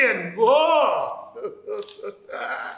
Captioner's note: laughs